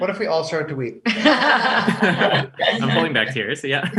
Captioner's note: laughs